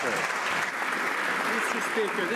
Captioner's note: some Applause